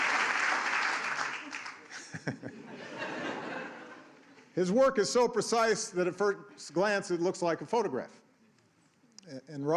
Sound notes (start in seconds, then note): 0.0 cheers and applause